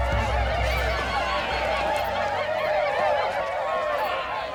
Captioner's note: hollering